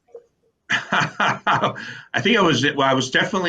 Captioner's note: laughs